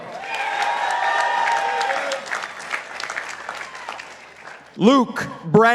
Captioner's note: participants applauding